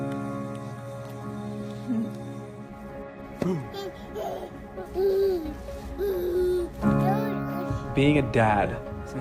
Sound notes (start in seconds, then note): 0.2 emotional music; 4.7 giggles